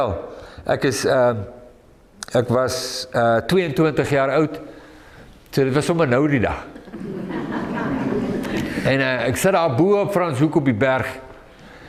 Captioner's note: audience laughing